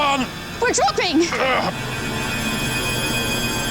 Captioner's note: groans